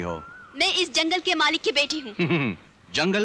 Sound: chuckles

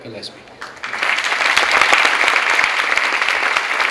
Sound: clapping

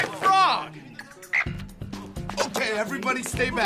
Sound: upbeat music; frog croaking

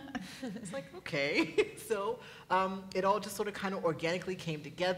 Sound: laughs; laughs

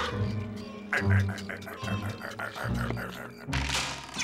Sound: laughing; squeaking, hammering

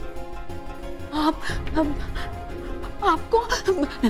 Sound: stuttering

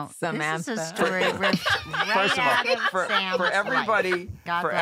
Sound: laughter

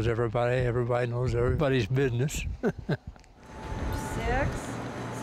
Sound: laughs

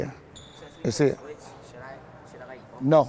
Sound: overlapping chattering

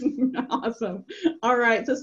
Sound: laughs

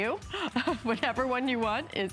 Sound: laughter

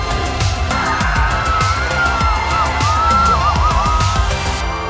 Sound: people clamoring

